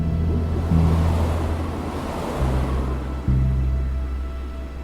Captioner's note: car engines revving